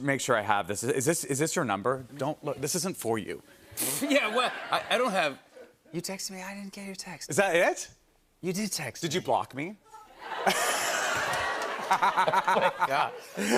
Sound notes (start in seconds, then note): 4.0 laughter; 10.2 laughter